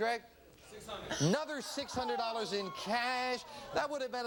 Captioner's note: sighs